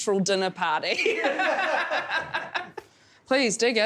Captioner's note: loud chuckling